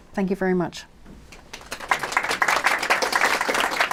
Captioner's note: applause